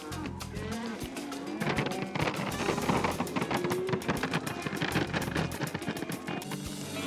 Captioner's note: mooing; mooing, feed being poured